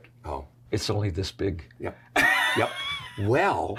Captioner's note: laughs